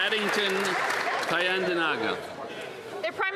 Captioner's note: some Applause